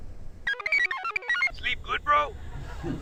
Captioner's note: computer chirps